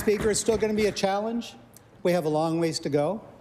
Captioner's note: applause